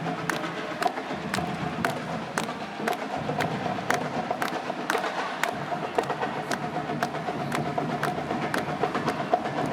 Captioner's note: applause